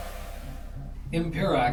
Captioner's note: ship Powering Up